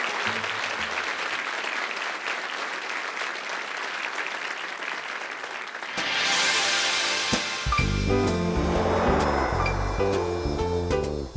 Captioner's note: applause